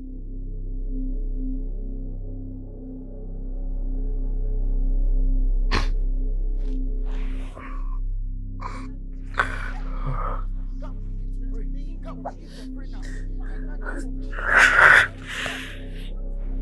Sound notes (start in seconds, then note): 9.2 intense prayers in the background